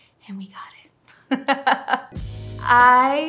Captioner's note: woman laughing